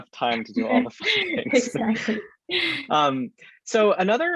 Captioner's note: both chuckling